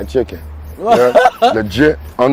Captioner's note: laughing